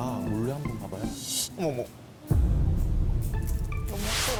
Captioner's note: sound effect for looking openly